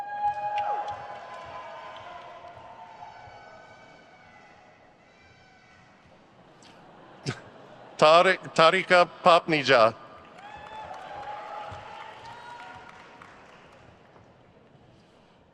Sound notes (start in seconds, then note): 0.0 crowd cheers; 7.2 chuckles; 10.6 crowd cheers